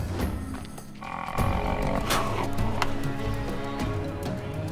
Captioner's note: rhino grunts